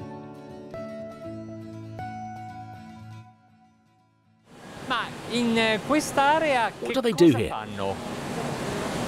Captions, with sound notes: (speaking in foreign language) What do they do here?